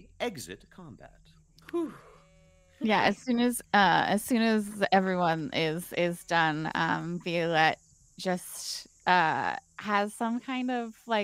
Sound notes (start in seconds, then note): 3.1 sheep bleats